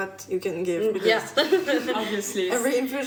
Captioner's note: laughs